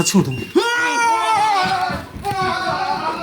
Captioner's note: beeping again